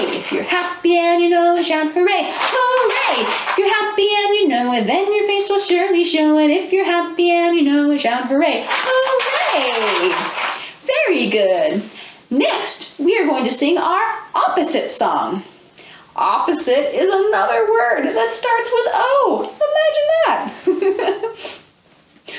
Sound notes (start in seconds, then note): 20.7 laughs